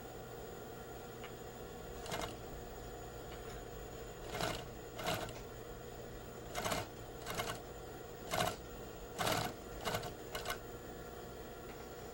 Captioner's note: sewing machine